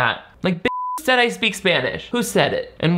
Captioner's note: beep